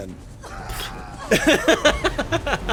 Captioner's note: spit